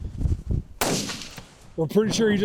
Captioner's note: gunshot